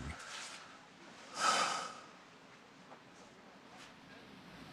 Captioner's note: sighs